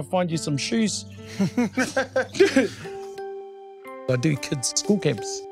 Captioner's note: laughing